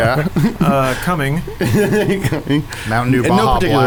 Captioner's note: laughs